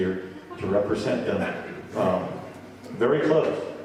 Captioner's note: audience laughing